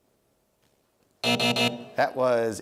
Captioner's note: buzzing